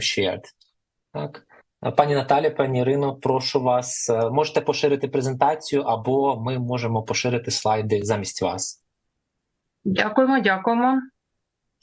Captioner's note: foreign language